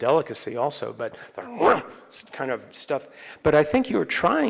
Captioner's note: grunts